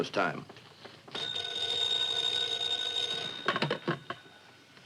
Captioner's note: phone ringing